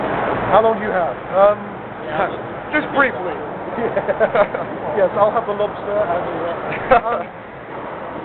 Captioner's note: laughing